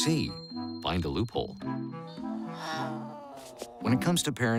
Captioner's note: growling